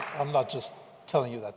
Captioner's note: applause